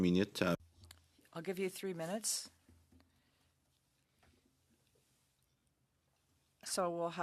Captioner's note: speaking French